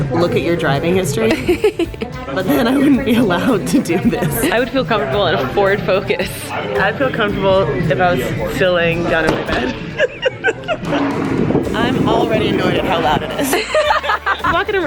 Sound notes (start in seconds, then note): 1.2 laughing; 9.4 laughing; 13.8 laugh